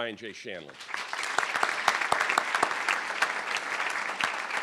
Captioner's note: crowd applauding